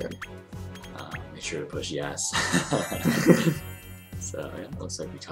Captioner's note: laughter